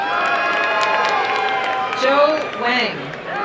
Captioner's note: crowd cheering and applauding